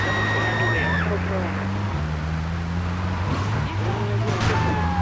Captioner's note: police radio chatter; car engine roaring